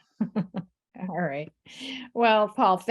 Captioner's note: chuckles